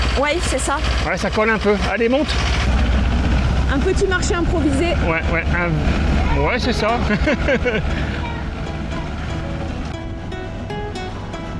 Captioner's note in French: rires